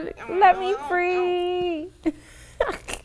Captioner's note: laughs